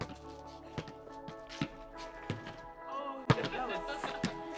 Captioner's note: balls bouncing